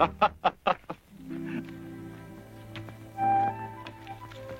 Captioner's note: laughs